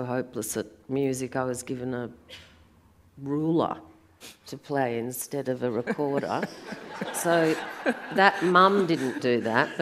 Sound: audience laughs

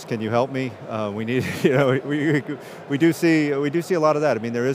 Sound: chuckles

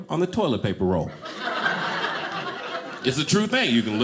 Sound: audience laughing

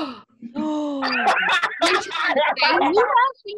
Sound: laughter

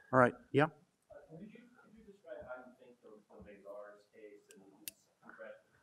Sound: man speaks faintly

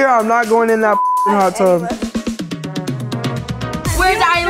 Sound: beep; lively pop music

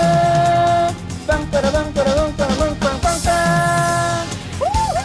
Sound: honk

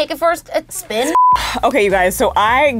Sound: beep

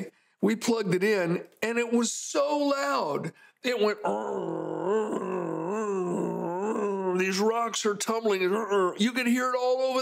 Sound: mimics sounds

